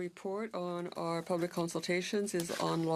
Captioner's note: speaking French